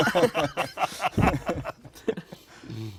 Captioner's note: laughter